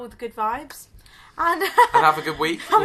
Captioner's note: laughs